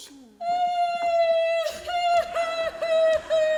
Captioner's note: cries